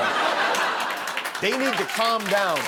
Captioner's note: laughter